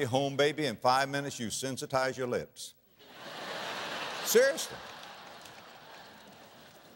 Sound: audience laughter

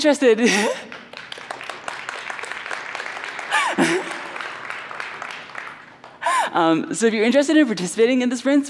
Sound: applause

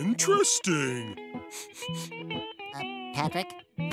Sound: sniffing

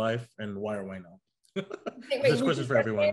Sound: laughs

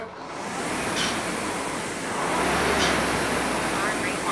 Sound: machine whirring

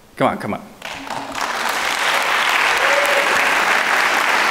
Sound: audience clapping

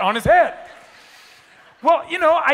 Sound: attendees laughing

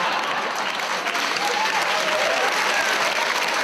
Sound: audience applauds

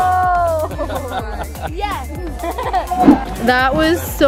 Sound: chuckles

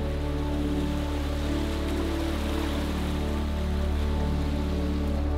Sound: waves ripple softly

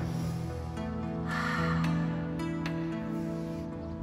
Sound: breathing deeply

